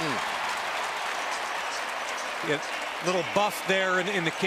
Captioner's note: cheering